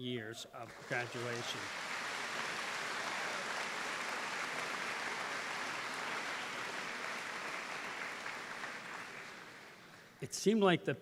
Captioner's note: applause